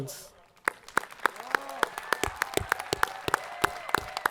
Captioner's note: audience applauding